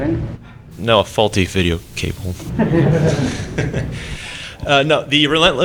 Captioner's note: laughter